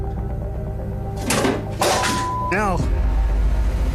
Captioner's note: can clanks